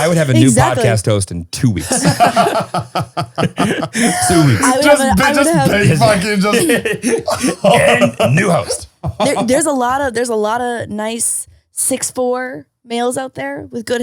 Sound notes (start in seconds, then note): 1.8 all laughing; 7.5 laughs